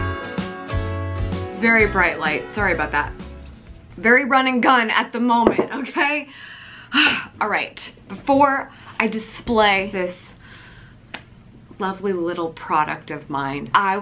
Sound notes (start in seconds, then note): 6.3 exhales